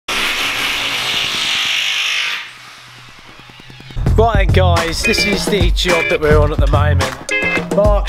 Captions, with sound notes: (power tools grinding) - Right guys, this the job that we're on at the moment.